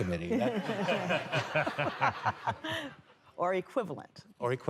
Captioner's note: laughter